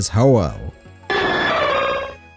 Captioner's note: Ho-oh Cry